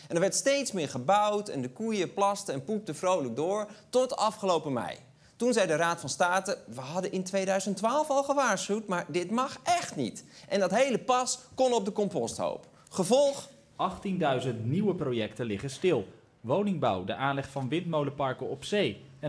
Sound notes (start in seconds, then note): none